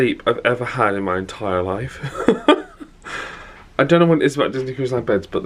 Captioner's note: laughs